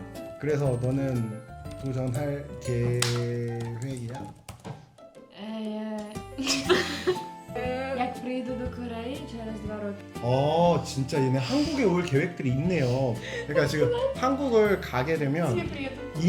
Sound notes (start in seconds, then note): 6.4 laughter